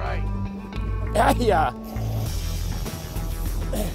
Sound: grunting

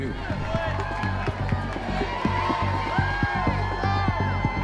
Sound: crowd cheering; intense electronic music

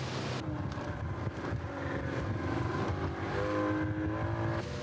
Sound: boat motor

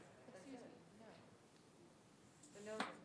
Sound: faintly speaking

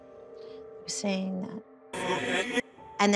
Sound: speaking distortedly

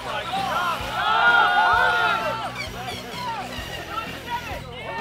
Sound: shouting

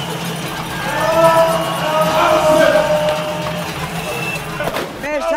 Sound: psychotic chant intensifies

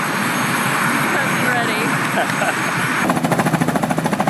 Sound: laughs

